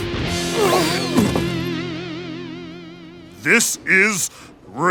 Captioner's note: thudding